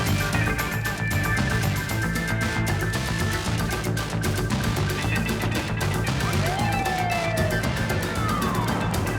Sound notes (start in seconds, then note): 6.0 siren wailing